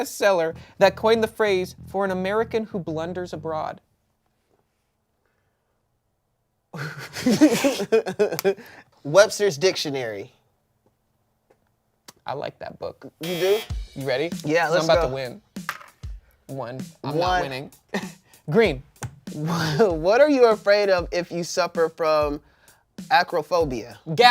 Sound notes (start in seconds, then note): 6.8 everyone laughs; 13.2 buzzer buzzes